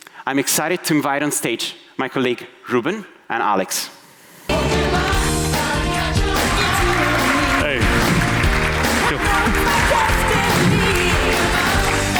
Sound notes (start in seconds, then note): 4.5 upbeat music; 7.0 audience applauding; 9.4 upbeat music